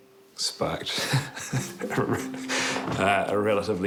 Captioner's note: laughs